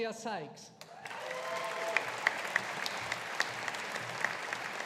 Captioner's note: audience applauding